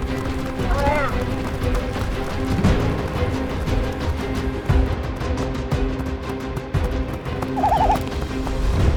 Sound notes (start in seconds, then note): 0.5 squawking; 7.5 trilling